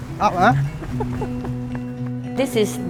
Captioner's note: laughs